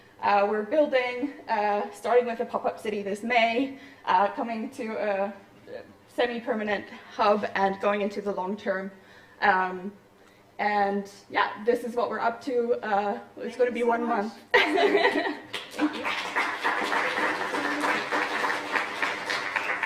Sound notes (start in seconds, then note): 14.6 laughs; 15.4 applause